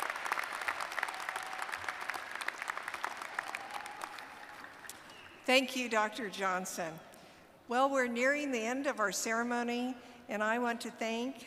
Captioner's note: cheers and applause